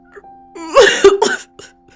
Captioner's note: sobbing